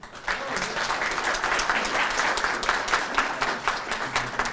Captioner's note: audience applauding